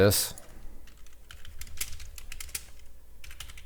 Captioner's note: typing